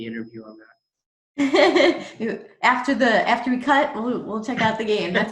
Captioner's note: laughs